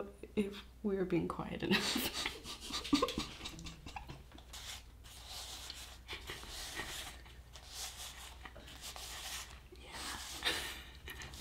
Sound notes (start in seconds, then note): 1.8 laughing; 5.0 scratching paper